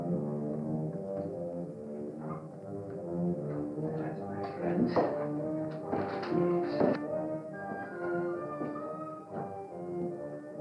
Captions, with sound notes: [MUTTERING] Yes, my friend. Yes.